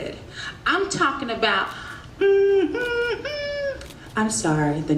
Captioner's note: humming